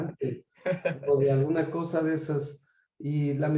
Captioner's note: laugh